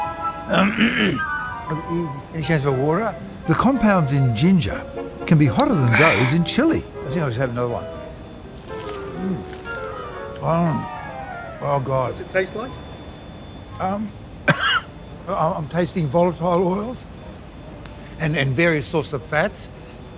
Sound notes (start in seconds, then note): 0.5 clears throat; 14.4 coughs